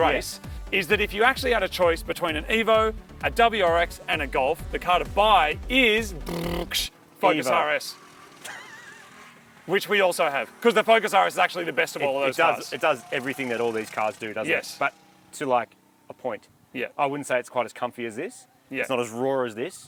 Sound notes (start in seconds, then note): 6.3 drum roll noise; 8.2 laughs